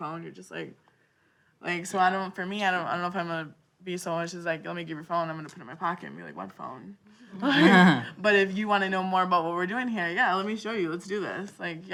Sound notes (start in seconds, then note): 7.5 panel laughing